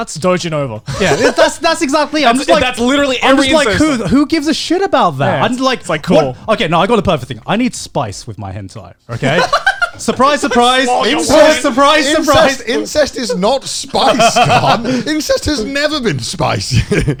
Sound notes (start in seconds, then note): 9.2 laughing